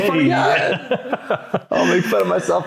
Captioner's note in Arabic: يضحك